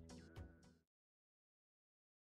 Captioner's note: silence